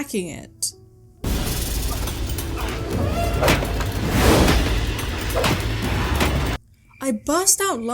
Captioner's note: fighting noises